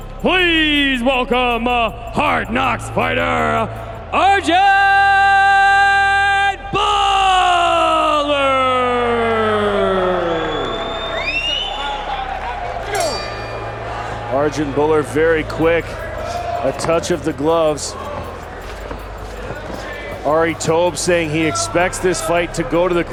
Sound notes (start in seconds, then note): 11.6 crowd cheering; 12.6 bell rings; 19.0 fighters shuffling